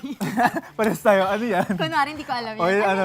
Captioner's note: laughing